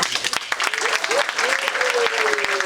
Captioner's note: audience applauding